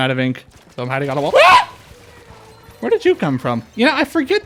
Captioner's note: Screech